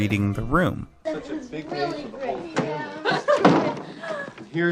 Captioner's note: group Chatter